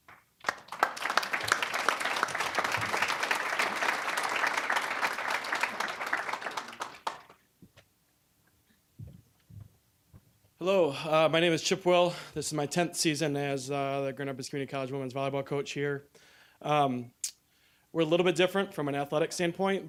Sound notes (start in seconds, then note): 0.0 applause